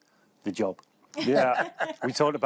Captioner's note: laughter